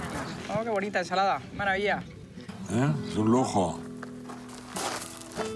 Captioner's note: speaking foreign language